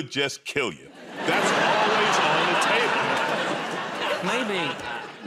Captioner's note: laughter